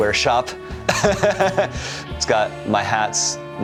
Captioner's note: laughs